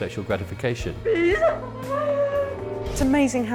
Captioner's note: crying